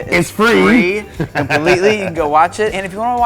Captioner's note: laughs